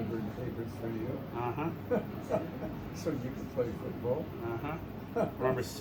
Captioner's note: laughter